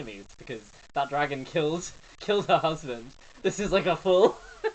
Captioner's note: laughing